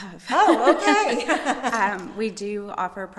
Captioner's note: laughs